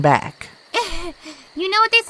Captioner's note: laughs nervously